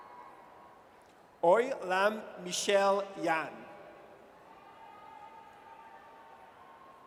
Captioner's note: audience cheers; audience cheers